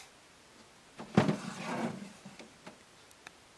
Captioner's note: scraping sound of tray sliding